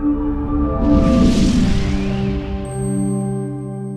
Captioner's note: whooshing